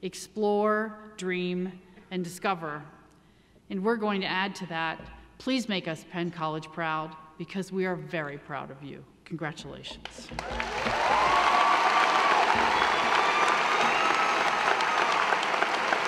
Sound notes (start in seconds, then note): 10.2 audience applauding; 10.3 audience cheering